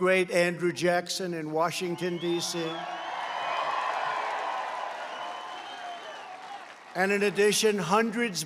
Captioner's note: applause